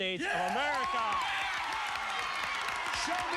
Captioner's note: cheers and applause